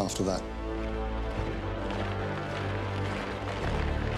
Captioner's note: rumble of marching feet